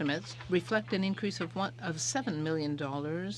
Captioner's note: speaking in french